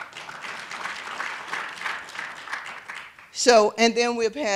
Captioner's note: applause